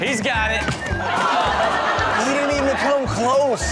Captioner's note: audience laughs